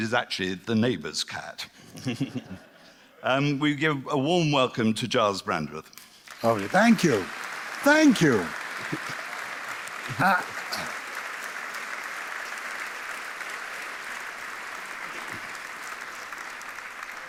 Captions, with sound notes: actually the neighbour's cat. We give a warm welcome to Gyles Brandreth. Thank you. Thank you. [Applause]